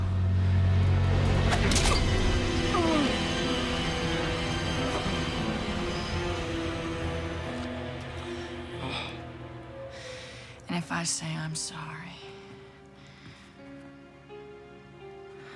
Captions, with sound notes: (Will groans) (exciting music) (Will sighs) and if I say I'm sorry